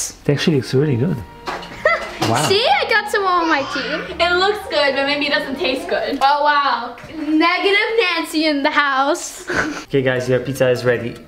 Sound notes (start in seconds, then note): 9.4 laughter